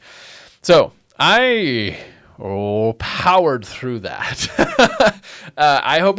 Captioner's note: laughs